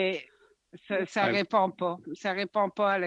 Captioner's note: speaking french